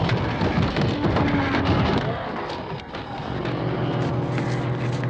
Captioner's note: ghouls growling